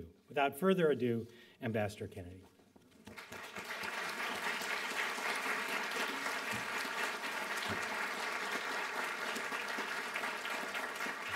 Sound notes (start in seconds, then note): 3.0 applause